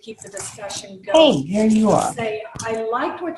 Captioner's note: interference